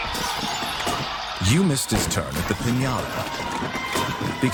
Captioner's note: game announcer on phone; crashing sounds